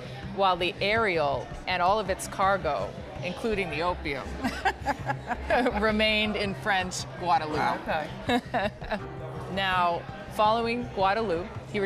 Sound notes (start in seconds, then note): 8.2 laughs